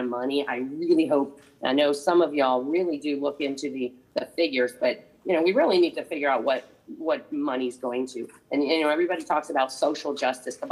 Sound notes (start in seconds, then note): none